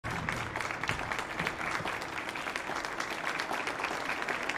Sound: audience applauding

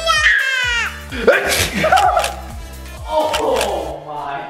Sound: sneezes

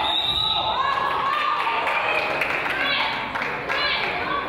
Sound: whistle blows; crowd applauds; coach yells

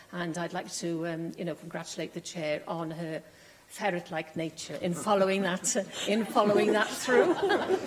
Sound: laughter

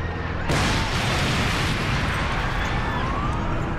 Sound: loud booming

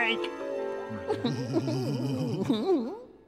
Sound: giggling

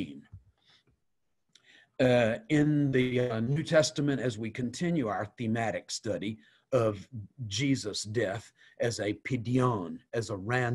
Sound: Hebrew

